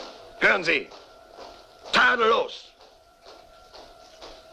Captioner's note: bagpipes fade; marching fades